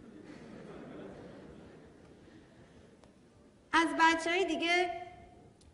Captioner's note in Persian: خنده‌ی حضار